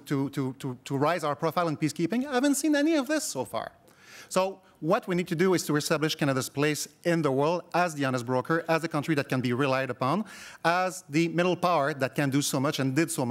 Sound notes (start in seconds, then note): none